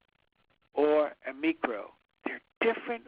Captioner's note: speaks in foreign language